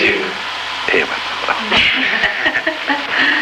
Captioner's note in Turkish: kahkahalar